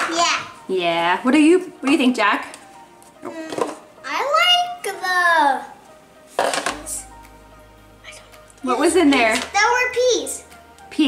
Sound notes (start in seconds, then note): 6.8 whispers